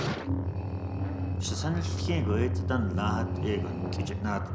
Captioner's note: speaking Navajo